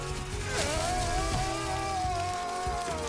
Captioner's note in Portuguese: gritando